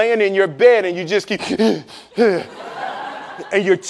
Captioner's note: startles; laughing